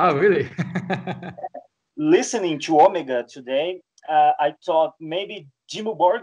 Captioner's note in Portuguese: Risos